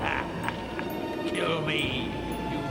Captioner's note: laughs